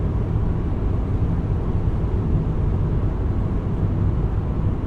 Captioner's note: car rumbling continues